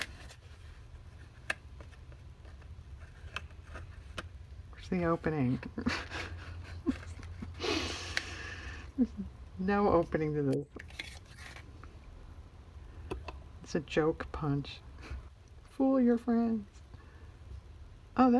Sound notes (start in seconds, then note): 5.8 laughs